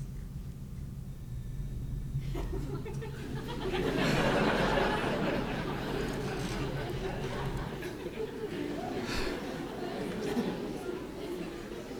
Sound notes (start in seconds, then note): 1.8 laughter